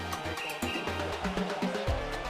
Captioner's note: whistles